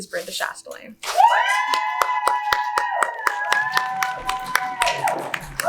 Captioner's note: audience cheers